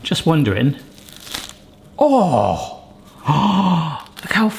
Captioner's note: bread cracks and tears; gasps